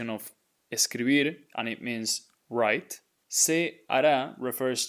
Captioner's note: speaking in Spanish